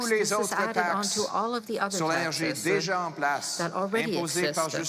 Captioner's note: speaking French